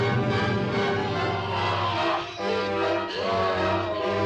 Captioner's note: groaning